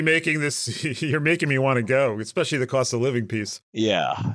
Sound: laugh

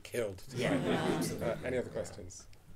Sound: audience laughing

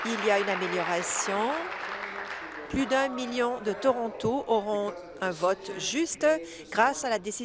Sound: applause

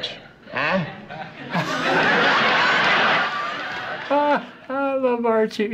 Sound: laughs

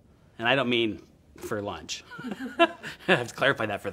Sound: laughs

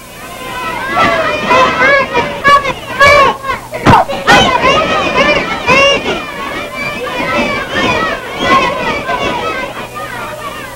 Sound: sounds of children shouting and playing on the school playground

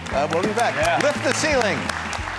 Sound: audience applauding

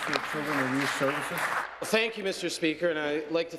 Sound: applause

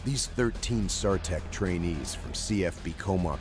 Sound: voiceover

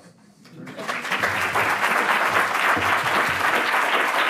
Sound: audience applauds

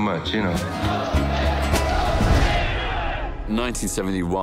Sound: protest chants

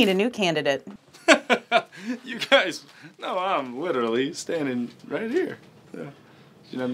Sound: laughs

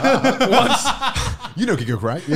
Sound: laughing

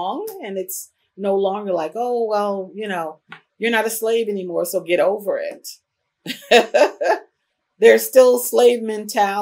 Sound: laughs

